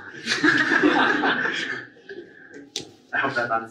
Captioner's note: audience laughs